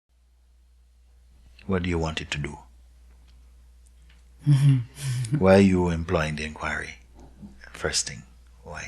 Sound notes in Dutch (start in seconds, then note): 4.4 Vriend lacht